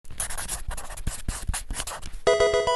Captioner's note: marker scratching; electronic video game chime